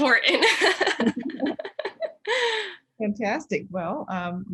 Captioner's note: both laughing